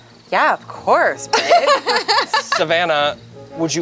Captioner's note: laughs